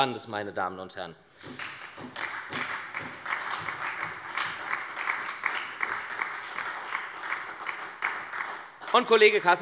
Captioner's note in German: Beifall bei der SPD